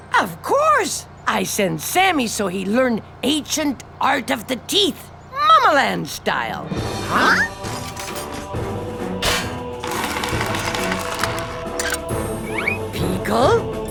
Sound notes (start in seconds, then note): 9.7 whirring